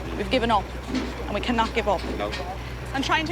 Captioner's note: none